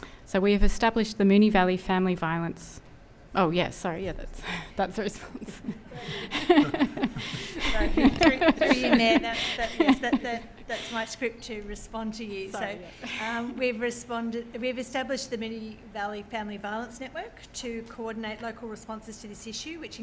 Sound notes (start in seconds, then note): 5.1 laughing